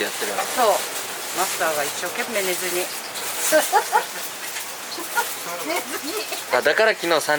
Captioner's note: laughs